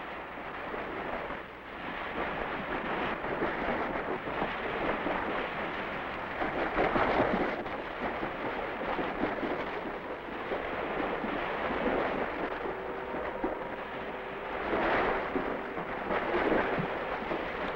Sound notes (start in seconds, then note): 3.0 splashing